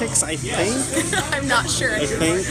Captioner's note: laughing